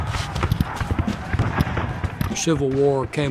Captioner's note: men shouting; boots tramping; artillery firing